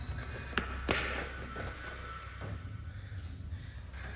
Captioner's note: footsteps clacking; Marlee gasping over eerie ambient music